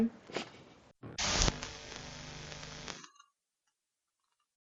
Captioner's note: static noise